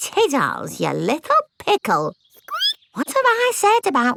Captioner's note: squeaks